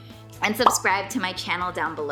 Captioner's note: bubble popping